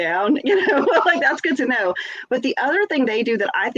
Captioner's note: laughs